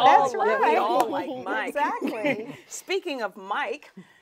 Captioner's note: laughing